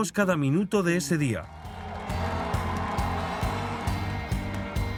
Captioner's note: crowd cheering